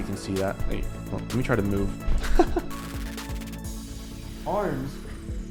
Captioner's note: laughing